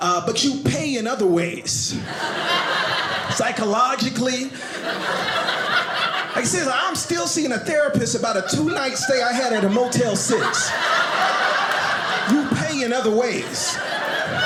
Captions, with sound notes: But you pay in other ways. (audience laughing) Psychologically, (audience laughing) like seriously, I'm still seeing a therapist about a two night stay I had at a Motel Six. (audience laughing) You pay in other ways.